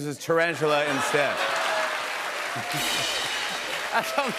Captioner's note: cheers and applause